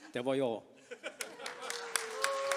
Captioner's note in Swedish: applåder